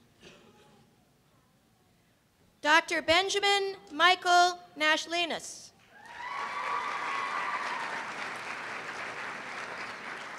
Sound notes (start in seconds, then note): 5.9 cheers and applause